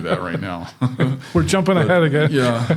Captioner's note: chuckling